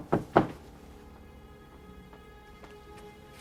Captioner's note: knock on door